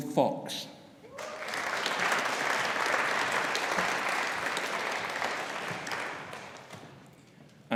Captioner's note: audience cheering; audience applauding